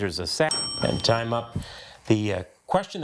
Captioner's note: bell dings